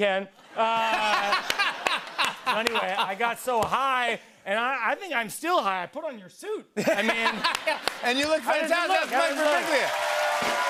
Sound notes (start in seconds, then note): 0.4 laughter; 6.8 laughter